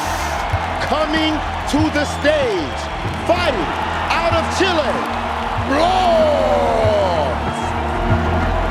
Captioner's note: in English; crowd cheering